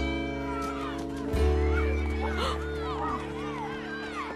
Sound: school bell ringing

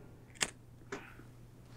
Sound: lighter Sparks

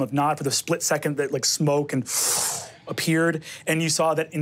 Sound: mimics wind whooshing

